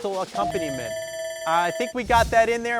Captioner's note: buzzer rings